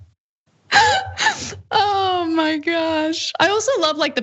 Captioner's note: laugh